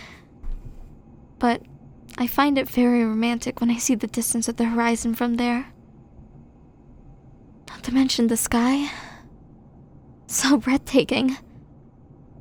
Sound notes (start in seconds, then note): 9.1 sigh